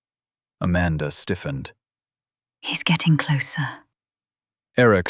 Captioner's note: whispering